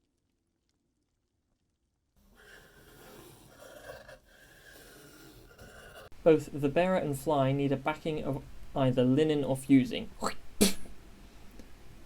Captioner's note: spits